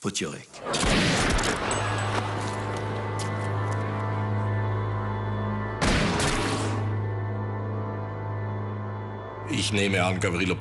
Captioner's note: gunshots, music